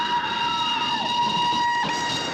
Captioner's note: Gwen screaming; train whistle blasting